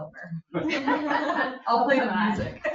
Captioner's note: people laugh